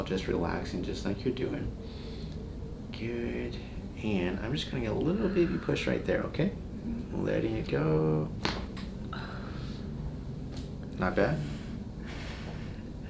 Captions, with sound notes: just relaxing just like you're doing. Good, and I'm just gonna get a little, baby push right there, okay? - Mhmm. - Letting it go. (cracking noise) (patient sighs) Not bad?